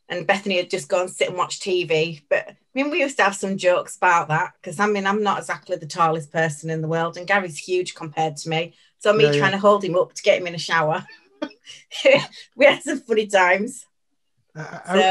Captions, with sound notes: and Bethany would just go and sit and watch TV. But I mean, we used to have some jokes about that 'cause I mean, I'm not exactly the tallest person in the world and Gary's huge compared to me. - Yeah. - So me tryna hold him up to get him in a shower (laughs) We had some funny times so.